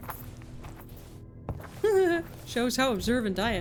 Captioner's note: laughs